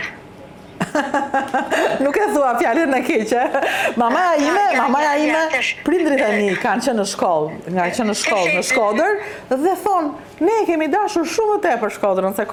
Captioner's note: laughs